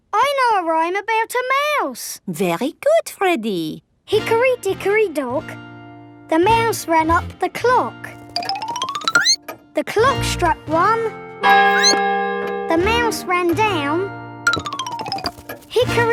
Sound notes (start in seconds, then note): 11.6 squeaks; 11.7 clock chimes